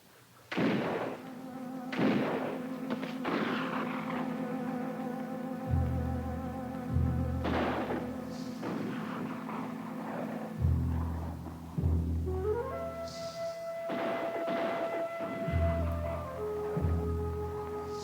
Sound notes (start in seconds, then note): 0.5 distant guns fire; 0.7 suspenseful music